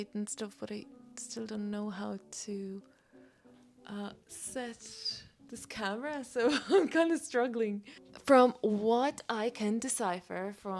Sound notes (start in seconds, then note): 6.8 laughs